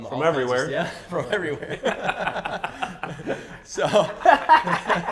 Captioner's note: laughs